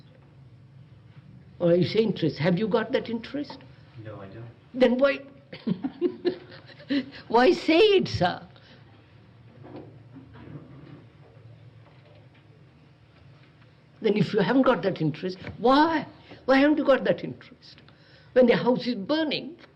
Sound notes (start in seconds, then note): 5.6 laughs